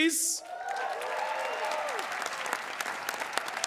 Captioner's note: cheers and applause